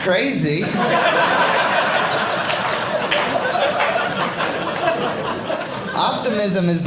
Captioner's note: audience laughing